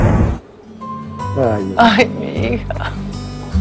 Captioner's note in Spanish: risas